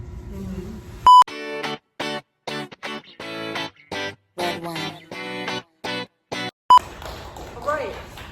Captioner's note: clapping